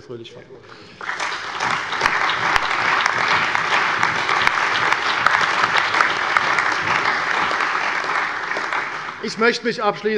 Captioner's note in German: Lebhafter allgemeiner Beifall